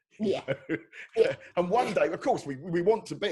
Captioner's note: laughing